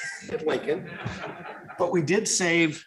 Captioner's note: laughter